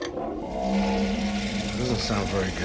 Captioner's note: groaning flusher